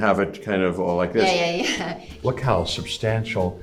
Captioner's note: chuckles